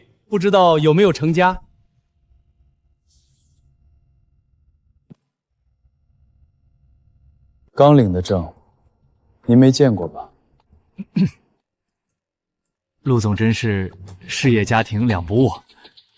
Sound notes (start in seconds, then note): 10.9 cough